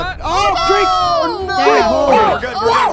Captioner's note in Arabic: المشاركون يصرخون